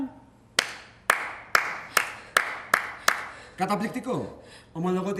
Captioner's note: χειροκρότημα